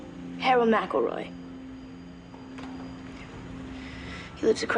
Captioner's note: sighs